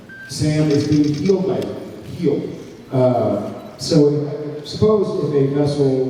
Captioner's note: none